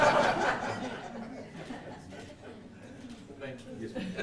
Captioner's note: audience laughing